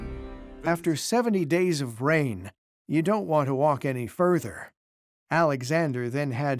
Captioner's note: in German